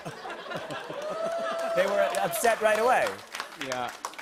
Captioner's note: applause